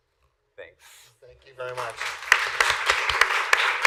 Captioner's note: applause